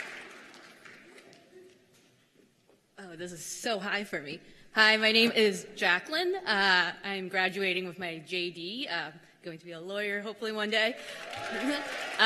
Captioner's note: cheers and applause